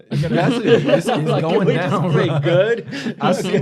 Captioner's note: laughter